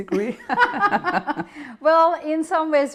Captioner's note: laughing